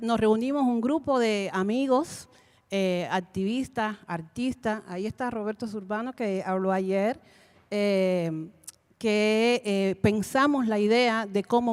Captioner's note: Spanish language 00:34:07